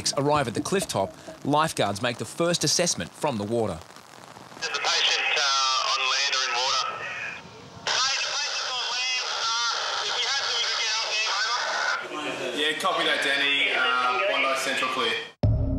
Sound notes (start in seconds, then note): 4.6 walkie talkie